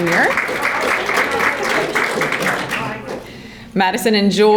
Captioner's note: audience applauding